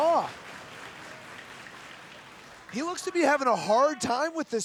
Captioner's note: applause